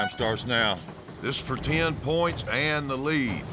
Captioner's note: horn blows